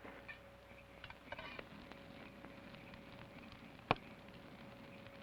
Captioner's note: fire crackles